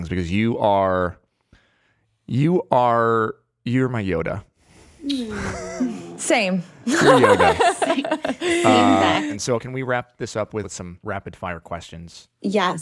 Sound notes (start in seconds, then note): 6.8 laughs